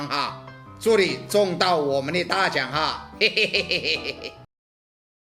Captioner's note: laugh